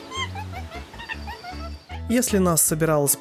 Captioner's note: laughing